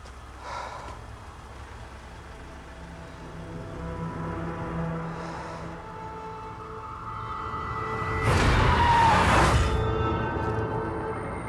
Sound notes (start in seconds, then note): 0.4 sighs; 8.2 tyres screeching